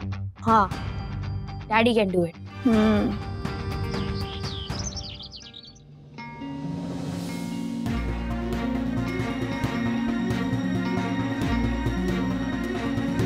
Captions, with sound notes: Yes, dad can do it. Hmm. [birds chirping] 'Sai Darshan Heights' [suspenseful music playing]